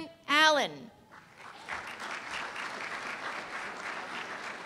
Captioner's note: applause